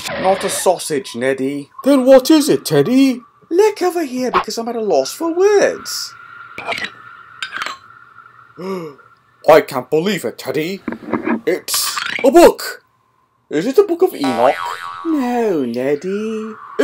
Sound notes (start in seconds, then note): 8.6 gasps